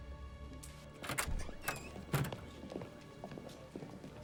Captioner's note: door creaks